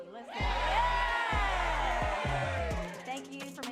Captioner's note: audience cheering